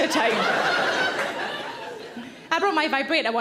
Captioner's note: audience laughs